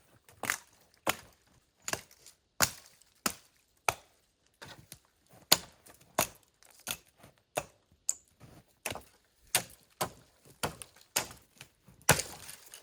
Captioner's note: hatchet noises